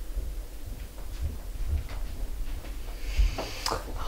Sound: footsteps

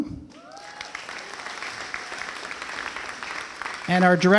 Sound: applause

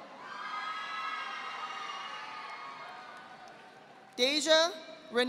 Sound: audience applauding

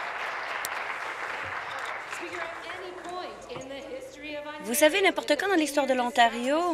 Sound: applause

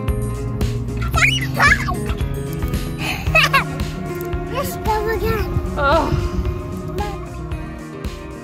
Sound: excited squeal

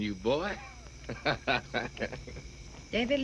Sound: laughs

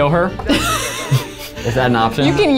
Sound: laughs

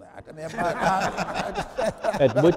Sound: chuckling

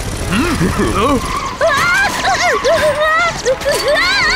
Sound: Tayo shrieks

